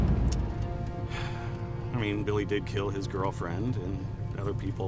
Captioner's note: sighs